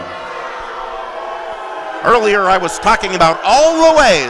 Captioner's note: audience booing